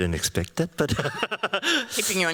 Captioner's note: chuckles